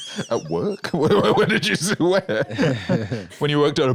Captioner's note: laughing